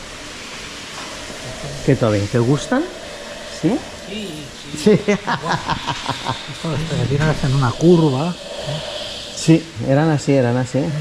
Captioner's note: laughs